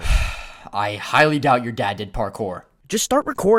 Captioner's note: sigh